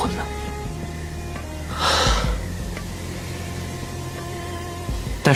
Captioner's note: Li Yuze breathes a sigh of relief